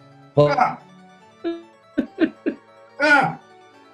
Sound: chuckling

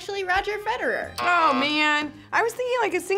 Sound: buzzer rings

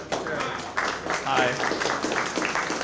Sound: applause

